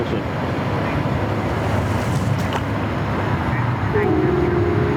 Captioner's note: overlapping chatter